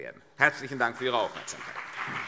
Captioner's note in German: Beifall CDU und BÜNDNIS 90/DIE GRÜNEN